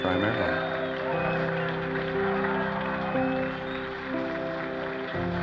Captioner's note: applause continues